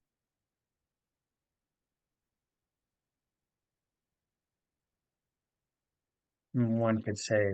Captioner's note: pause